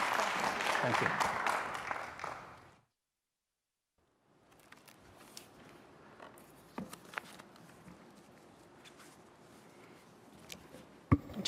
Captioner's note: applause